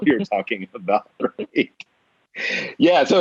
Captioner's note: both laughing